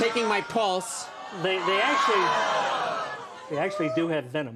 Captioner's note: audience exclaims